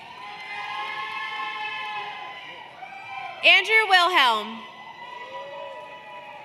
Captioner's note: cheers and Applause